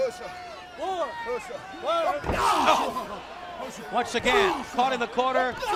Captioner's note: crowd chatter